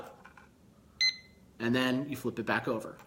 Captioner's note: beeping